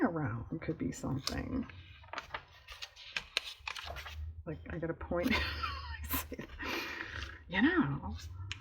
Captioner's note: laughs